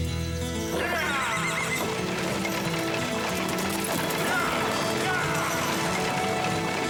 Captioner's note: horses neighing; man wailing